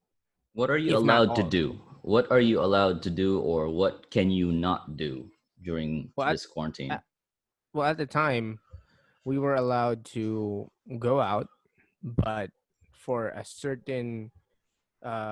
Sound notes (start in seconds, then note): none